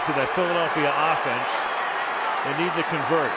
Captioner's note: whistles